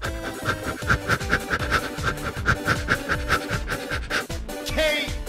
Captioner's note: huffing & puffing